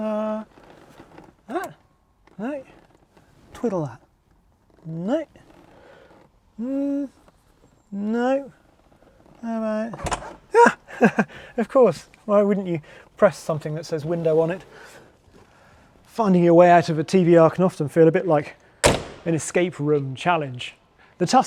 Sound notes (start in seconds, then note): 10.2 metal clicking; 10.5 chuckling